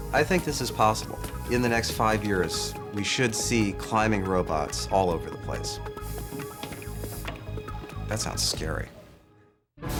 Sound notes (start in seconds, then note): 5.9 Mecho-Gecko whirring